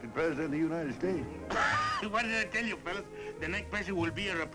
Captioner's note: laughs